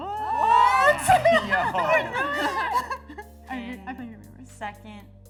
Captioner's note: excited chatter